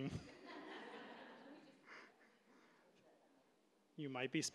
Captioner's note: audience laughing